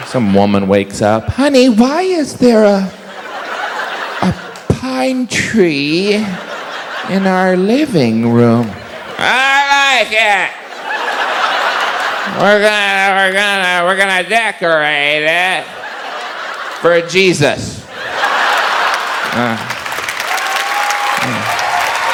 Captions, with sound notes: Some women wakes up, honey why is there a... (audience laughs) a pine tree in our living room? I like it. (audience laughs) (slurring) We're gonna, we're gonna, we're gonna decorate it for Jesus. (audience laughs and applauds)